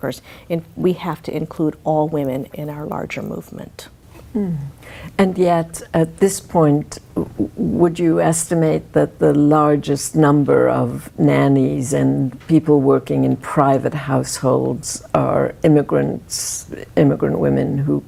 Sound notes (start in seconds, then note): 4.3 humming